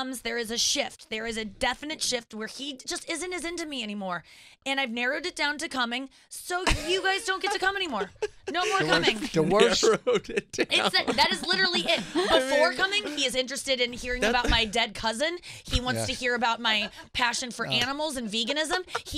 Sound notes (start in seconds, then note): 6.6 laughing